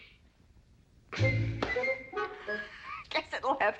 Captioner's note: giggling